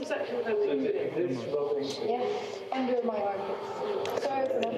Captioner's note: many people chattering